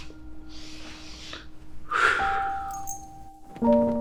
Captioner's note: deep breath